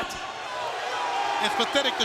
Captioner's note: crowd cheering